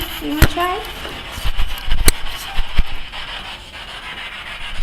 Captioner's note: static buzzing